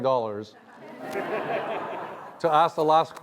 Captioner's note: laughs